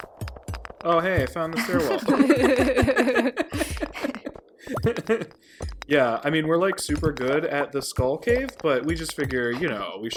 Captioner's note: all laugh